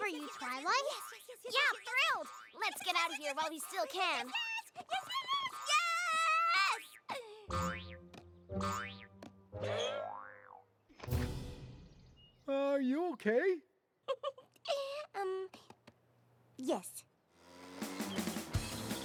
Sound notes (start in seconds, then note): 7.9 boing! boing!; 14.1 chuckles nervously